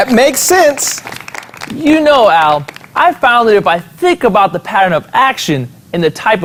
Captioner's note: clapping